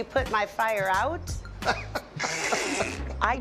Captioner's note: laughter